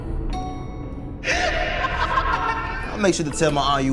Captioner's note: tense menacing music; Ramint laughing